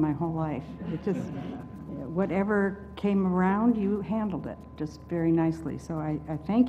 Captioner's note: laugh